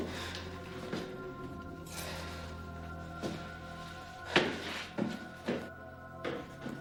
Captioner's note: footsteps echo; wind howls